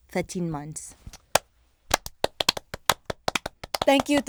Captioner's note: claps